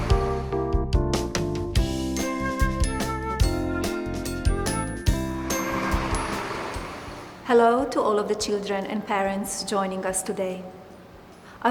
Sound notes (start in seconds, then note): 0.0 upbeat music; 5.2 car engine revs